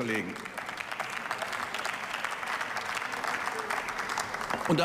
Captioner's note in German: Beifall